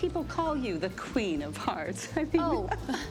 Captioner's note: laughs